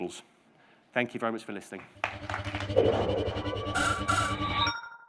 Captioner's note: audience applauding